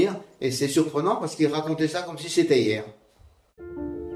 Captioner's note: speaking in French